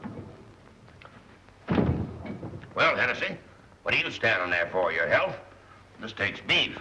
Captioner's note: thudding